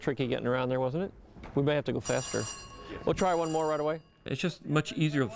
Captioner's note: bell Ringing